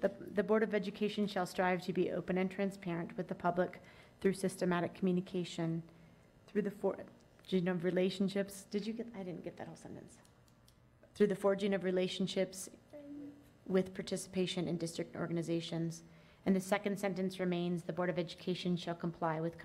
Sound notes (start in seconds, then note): none